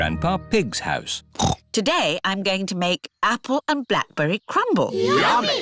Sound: snorts

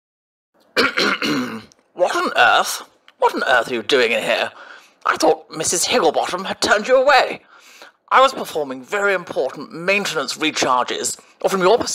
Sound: clears Throat

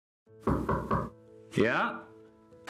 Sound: knocking against wood

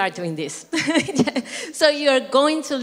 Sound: laugh

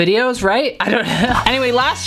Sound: laughs

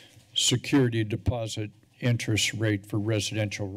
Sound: none

